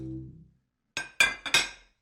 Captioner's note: dishes clatter